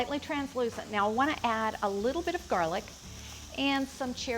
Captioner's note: oil sizzling